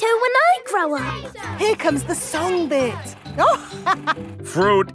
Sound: chuckling

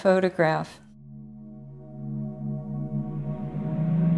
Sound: low drone, wind blowing

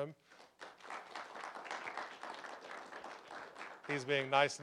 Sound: applause

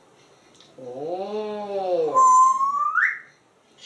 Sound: whistle

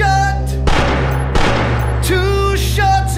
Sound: gunshots

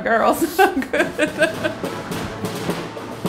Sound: laughing; lively music

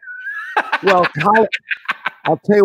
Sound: laughing

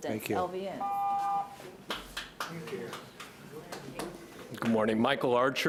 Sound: overlapping chatter

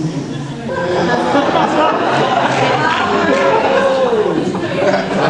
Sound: audience laughs

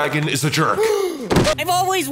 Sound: gasp

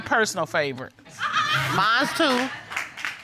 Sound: audience laughing

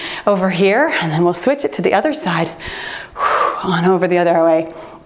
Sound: exhaling

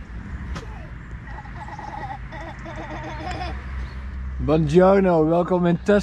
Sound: laughing

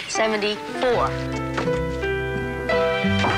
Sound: knocking on door

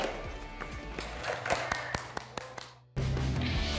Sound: clapping

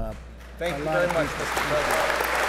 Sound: applause

